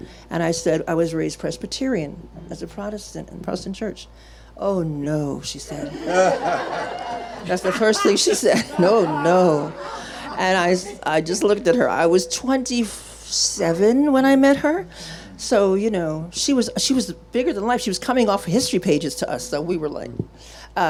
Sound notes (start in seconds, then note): 5.8 audience laughing